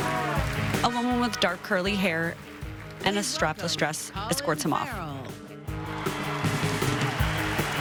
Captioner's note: applause